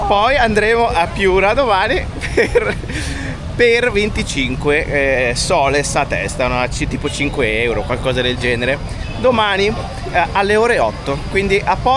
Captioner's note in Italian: risate